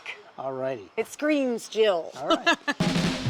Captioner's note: laughs